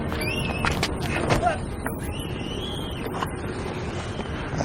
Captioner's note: kid screaming